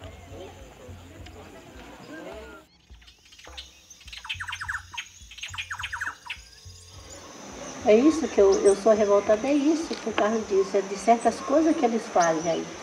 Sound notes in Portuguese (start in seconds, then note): 3.7 canto de pássaros